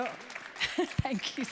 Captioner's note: audience applauds; speaking in foreign language